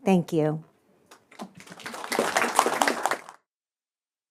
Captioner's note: applause